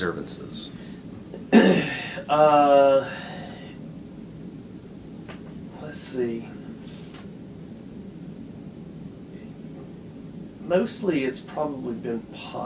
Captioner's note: clears throat